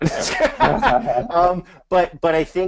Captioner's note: both laughs